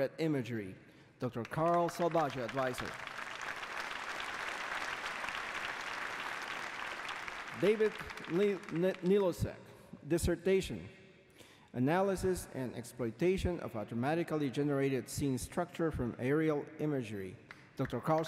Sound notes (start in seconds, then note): 2.7 applause